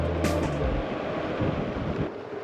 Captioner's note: wind blowing